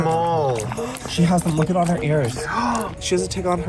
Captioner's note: gasps; gasps